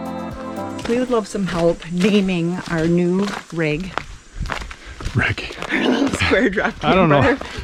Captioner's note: laugh